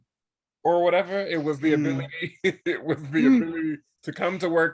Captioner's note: laughs